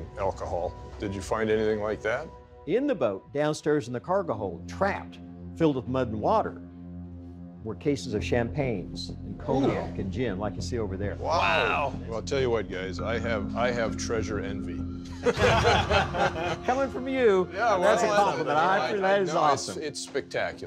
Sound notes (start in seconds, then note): 15.2 laughing